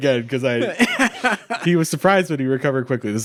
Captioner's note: laughing